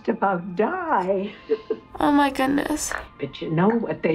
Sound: chuckles

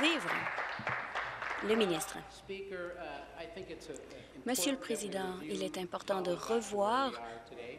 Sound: applause

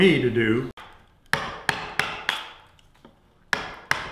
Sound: hammering

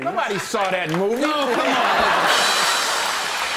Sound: laughter

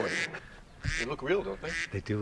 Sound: ducks quacking

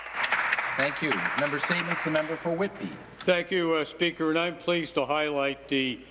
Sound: some Applause

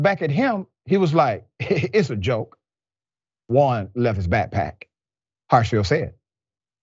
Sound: laugh

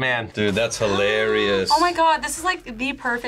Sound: gasps

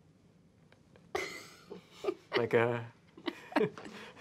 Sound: laughing

